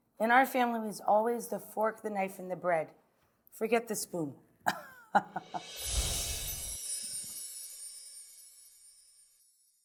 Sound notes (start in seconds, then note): 5.3 laughs; 5.6 chimes twinkle